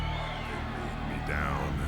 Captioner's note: crowd cheering